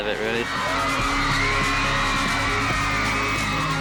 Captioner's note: all screaming